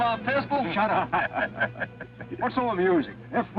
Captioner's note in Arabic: يضحك الشريف